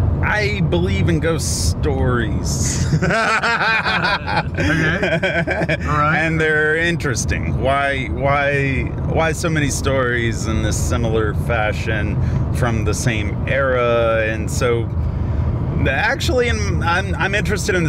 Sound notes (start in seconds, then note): 2.6 Dave laughs